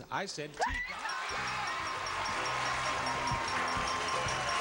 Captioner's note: screaming; bell ringing